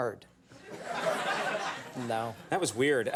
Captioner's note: audience laughs